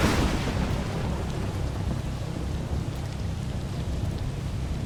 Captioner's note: rain falling